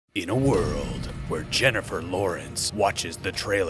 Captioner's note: voiceover